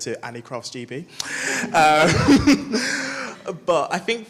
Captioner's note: chuckles